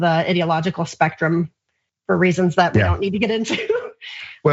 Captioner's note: laugh